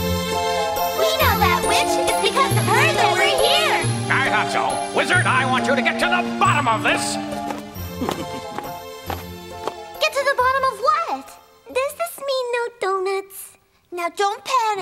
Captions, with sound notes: - We know that Witch. It's because of her that we're here. - I thought so. Wizard, I want you to get to the bottom of this! (Wizard giggles) - Get to the bottom of what? - Does this mean no donuts? - Now don't panic!